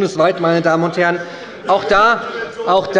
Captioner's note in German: Zurufe von der CDU